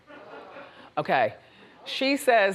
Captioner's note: audience laughs